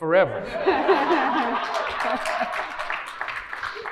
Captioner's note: clapping